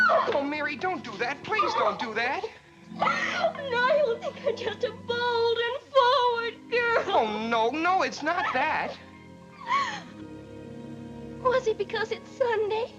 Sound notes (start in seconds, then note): 2.9 sobs